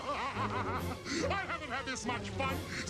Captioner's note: zurg laughing